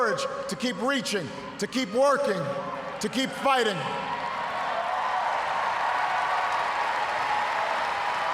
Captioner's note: cheers, applause